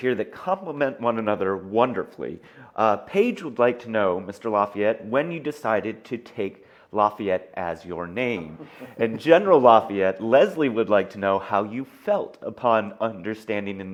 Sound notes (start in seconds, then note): 8.3 laughs